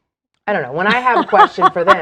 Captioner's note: laughs